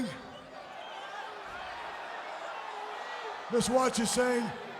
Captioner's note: crowd chattering